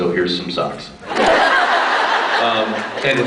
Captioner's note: laughs